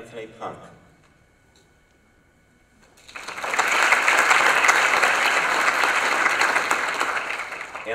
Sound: applause

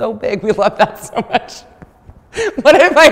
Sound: laughter

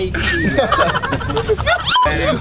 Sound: laughing

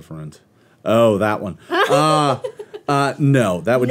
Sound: giggles

